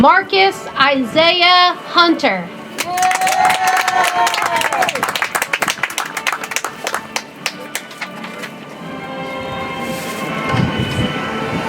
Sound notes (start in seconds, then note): 2.8 audience applauds; 6.2 soft music